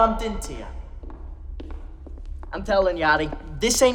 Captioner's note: footsteps